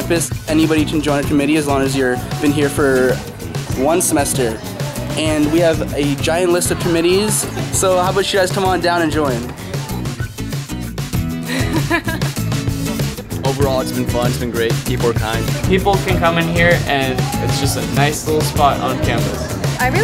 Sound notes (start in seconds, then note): 11.3 laughing